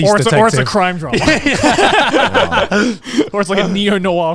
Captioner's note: everyone laughs